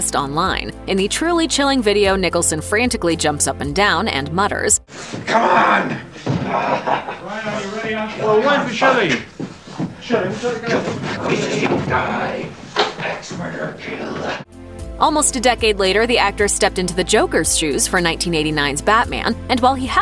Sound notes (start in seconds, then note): 7.8 grumble